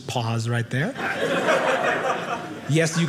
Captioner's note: audience laughing